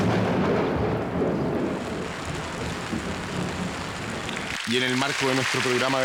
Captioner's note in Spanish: Se pone a llover